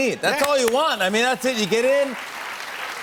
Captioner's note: cheers and applause